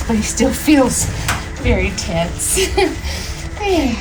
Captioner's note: chuckles; uplifting music